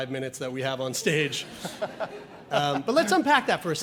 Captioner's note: audience laughs